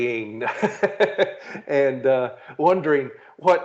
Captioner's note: laughing